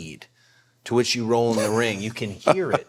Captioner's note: The Undertaker laughing